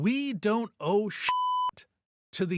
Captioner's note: beep